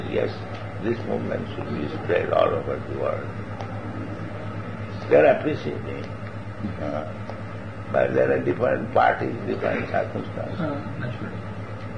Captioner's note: laughs; chuckles